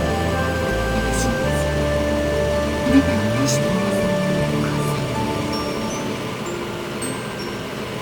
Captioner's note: rain